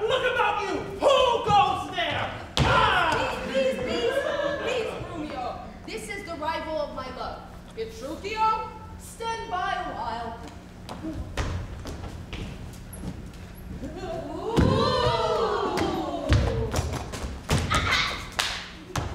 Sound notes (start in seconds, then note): 3.4 audience laughs